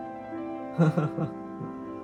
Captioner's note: laughs